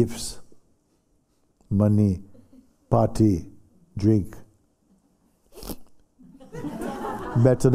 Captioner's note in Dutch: gelach